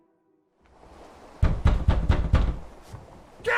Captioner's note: aggressive knocking